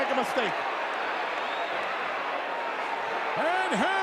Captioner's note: audience cheering